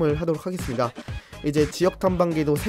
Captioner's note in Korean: 스읍